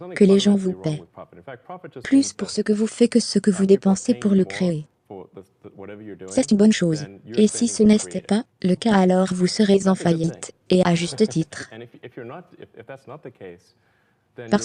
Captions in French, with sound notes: Donc, il n'y a rien de fondamentalement faux avec le profit. En fait, le profit signifie simplement que les gens vous paient plus pour tout ce que vous faites que vous dépensez pour le créer. C'est une bonne chose. (des rires) Et si ce n'est pas le cas,